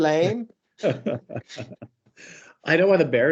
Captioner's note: chuckles